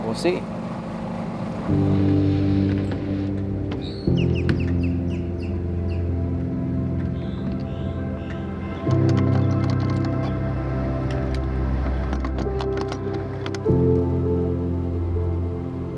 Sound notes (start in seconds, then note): 1.1 sad music; 4.0 birds chirping; 12.5 sad music continues